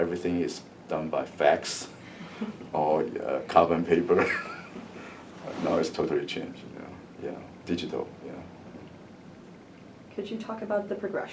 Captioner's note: laughs